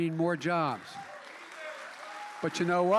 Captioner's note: applause